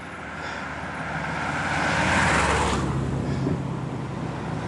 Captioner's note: passing Traffic